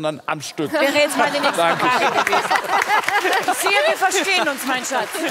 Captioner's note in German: Lachen